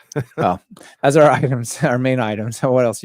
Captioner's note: laughs